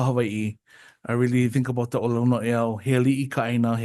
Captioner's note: speaks Hawaiian